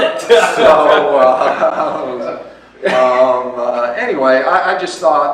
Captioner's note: laughs